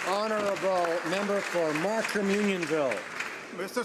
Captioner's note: speaking native language